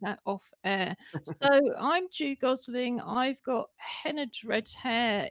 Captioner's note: laughter